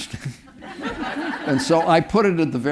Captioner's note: audience laughing